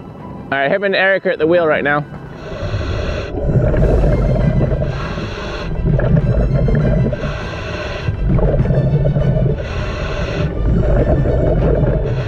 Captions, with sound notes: - All right, him and Eric are at the wheel right now. (deep breathing) (bubbles churning)